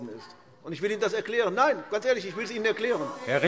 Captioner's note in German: Zurufe SPD